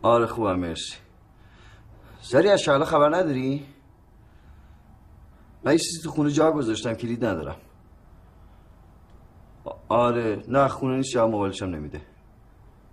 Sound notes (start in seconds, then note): none